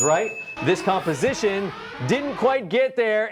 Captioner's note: alarm blaring